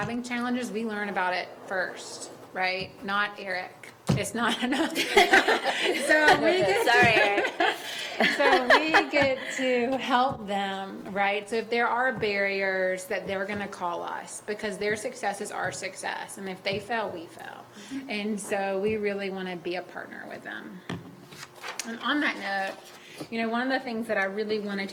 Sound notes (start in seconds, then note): 7.2 laughter